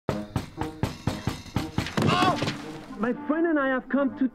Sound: knocking

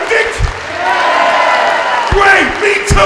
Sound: cheering

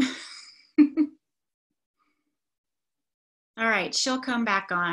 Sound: laughs

